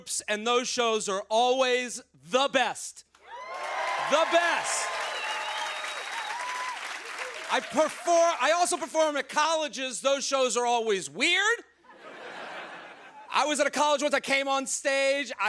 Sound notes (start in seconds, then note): 3.2 cheers and applause